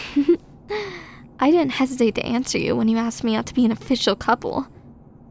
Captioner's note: giggle